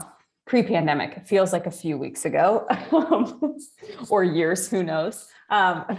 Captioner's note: laughs